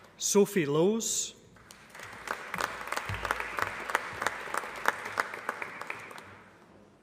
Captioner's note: applause